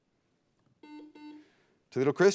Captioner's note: beep